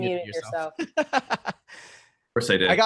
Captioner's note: laughing